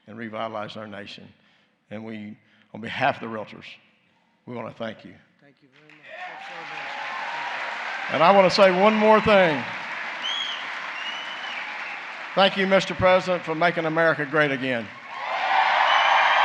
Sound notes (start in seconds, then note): 4.4 applause; 10.2 applause